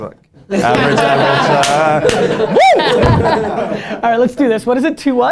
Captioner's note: laughter